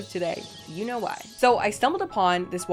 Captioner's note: bats screeching